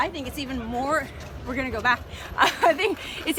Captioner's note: laughs